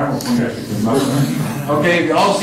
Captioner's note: laughter